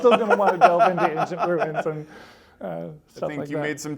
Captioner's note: laughter